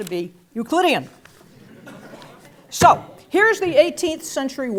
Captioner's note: laugh